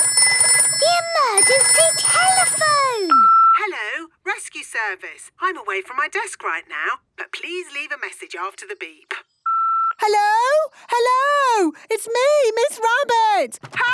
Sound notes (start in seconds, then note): 0.0 phone ringing; 3.3 answering machine; 9.8 beep